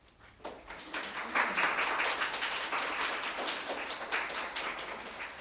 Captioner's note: audience applauds